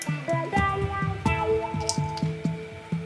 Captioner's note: crack